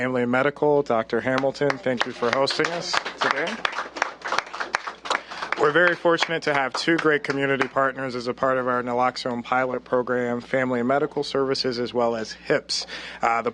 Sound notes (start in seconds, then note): 4.2 applause